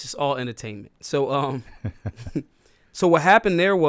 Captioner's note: laughs